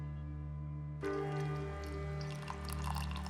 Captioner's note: coffee pouring